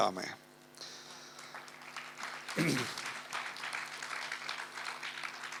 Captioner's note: audience applauds